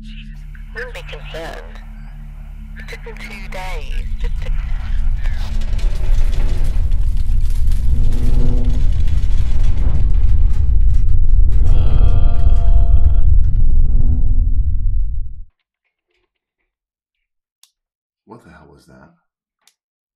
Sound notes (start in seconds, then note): 0.8 over walkie; 5.3 rumbling